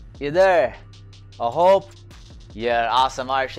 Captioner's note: foreign language